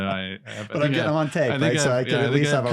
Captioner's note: laughs